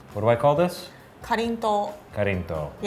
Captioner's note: speaking in foreign language